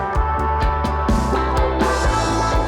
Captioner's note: upbeat music; machinery whirring